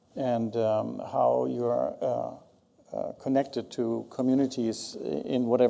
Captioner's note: none